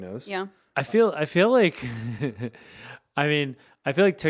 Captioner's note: laughs